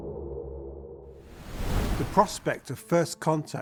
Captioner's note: wind whooshing